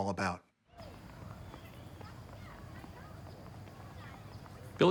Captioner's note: kids chatting